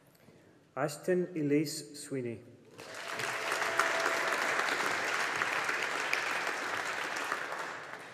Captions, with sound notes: Astyn Ellice Sweeney. (AUDIENCE APPLAUDING)